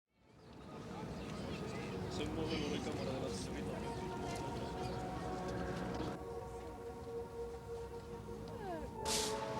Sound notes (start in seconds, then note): 0.8 people chatting; 1.8 soft music